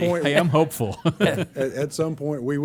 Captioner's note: laughter